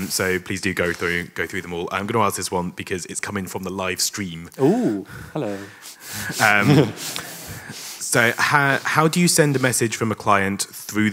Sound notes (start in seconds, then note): 6.3 chuckling; 6.3 audience laughing